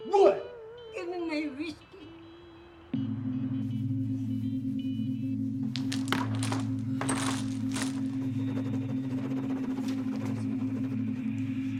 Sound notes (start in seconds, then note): 3.9 suspenseful music; 5.7 dominos scrambling